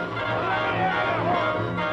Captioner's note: shouting